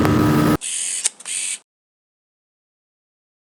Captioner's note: camera shutter sound